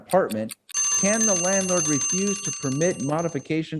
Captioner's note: alarm ringing